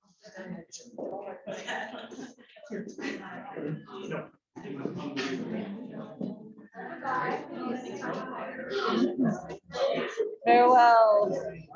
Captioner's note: background Chatter